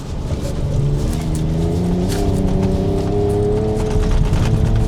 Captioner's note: engine whirring